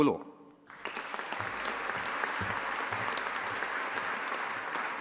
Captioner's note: audience applauding